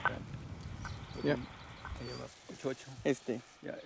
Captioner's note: beeping; speaking in Spanish